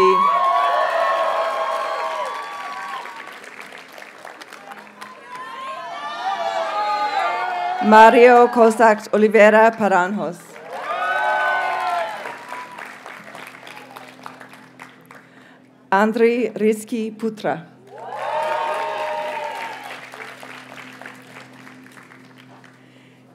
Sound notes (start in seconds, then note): 0.0 audience cheers and applauds; 5.0 graduates chant; 17.8 audience cheers and applauds